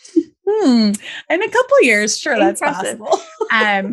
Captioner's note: laughs